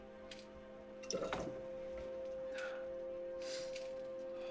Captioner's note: alcohol pouring